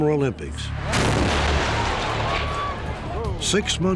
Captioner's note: explosion